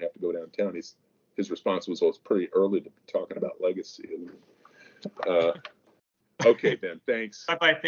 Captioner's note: mic cuts